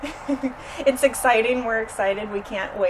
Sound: laughs

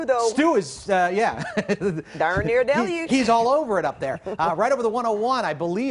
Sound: laughter

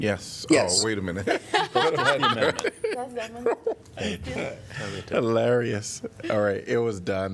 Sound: laughter

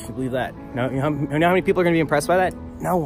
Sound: stammers; stage whisper

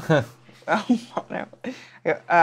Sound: laughs

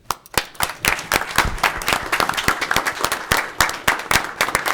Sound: audience clapping

